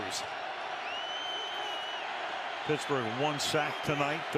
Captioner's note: cheers, applause